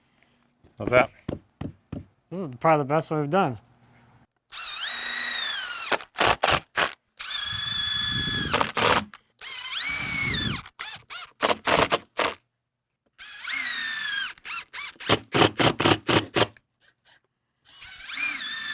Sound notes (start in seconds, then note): 4.5 drill whirring; 4.7 drill clicking